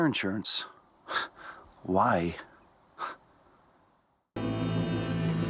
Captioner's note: scoffs